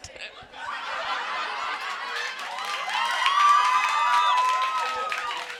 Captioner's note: crowd cheering and applauding